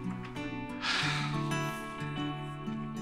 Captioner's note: Deep sighs